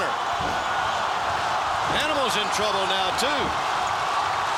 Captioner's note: applause